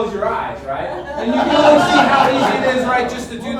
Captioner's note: audience laughs